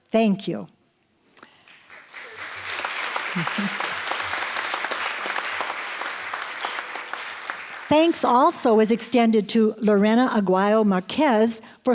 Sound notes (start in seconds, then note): 1.5 applause